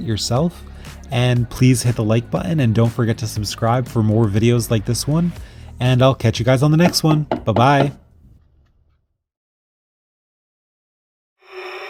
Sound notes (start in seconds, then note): 6.8 banging